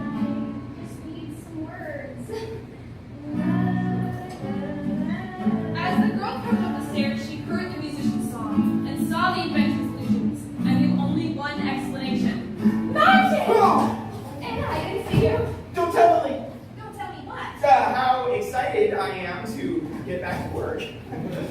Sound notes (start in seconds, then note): 2.6 strumming; 13.0 Axel yells